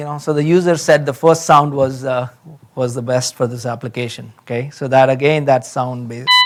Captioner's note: horn pulsing